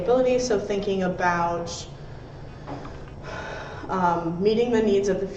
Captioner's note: sighs